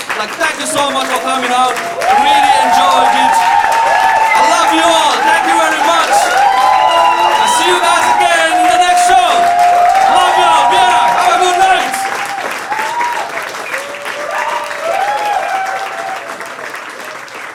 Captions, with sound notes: like thank you so much for coming out. I really enjoyed it. (audience applauding) I love you all, thank you very much. I'll see you guys again in the next show. Love you all, Vienna, have a good night! (audience applauding)